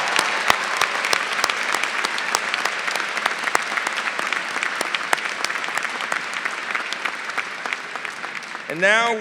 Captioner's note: applause